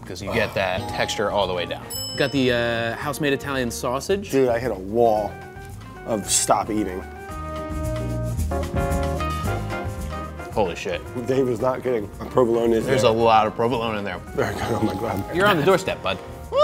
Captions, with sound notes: 'cause you get that texture all the way down. [bell dings] Got the house made Italian sausage. - Dude I hit a wall, of stop eating. [energetic music] - Holy shit. - Well Dave is not kidding, provolone is there. - There's a lot of provolone in there. - Very good, oh my god. - You're on the door step bud.